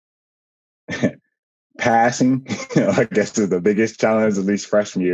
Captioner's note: laughs